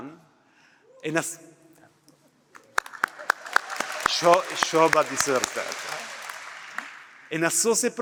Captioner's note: applause